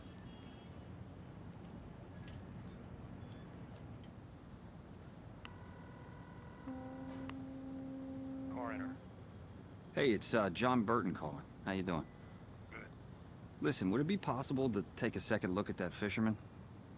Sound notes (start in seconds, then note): 5.4 boat horn blaring; 5.7 line trilling